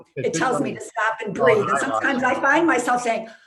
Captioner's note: mumbling agreement